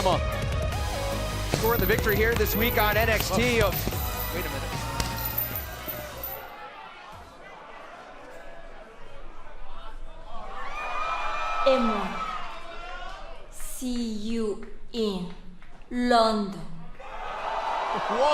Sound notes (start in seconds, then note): 5.8 crowd chatter; 7.4 crowd cheering